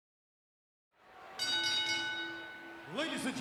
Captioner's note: bell rings